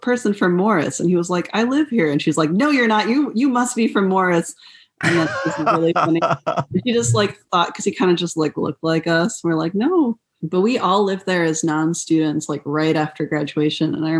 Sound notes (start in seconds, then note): 5.0 laughter